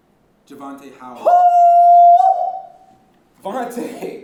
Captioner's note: loud howl